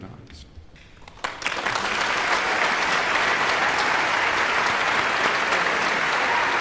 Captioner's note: audience applauding and cheering